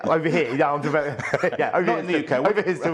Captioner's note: both laughing